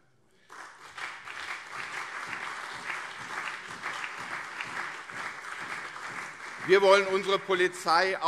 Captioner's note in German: Beifall CDU und SPD